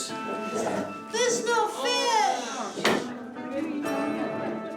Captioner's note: all gasp, murmur